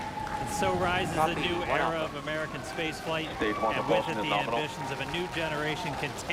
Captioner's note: cheering